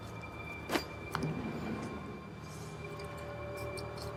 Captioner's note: sounds of bag being set down and opened